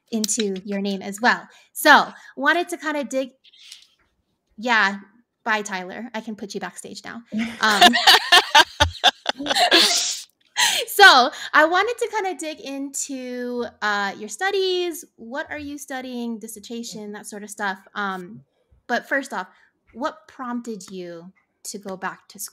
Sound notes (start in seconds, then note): 7.3 women laughing